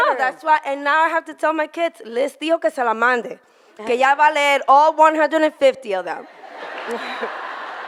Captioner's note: in foreign language; audience laughing